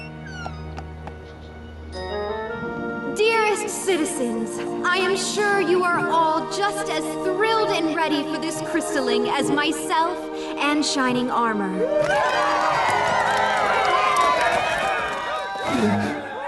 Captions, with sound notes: Dearest Citizens, I am sure you are all just as thrilled and ready for this Crystalling as myself and Shining Armor. [cheers]